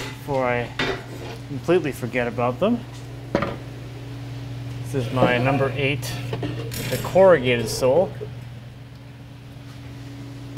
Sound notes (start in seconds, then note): 3.4 metal thunking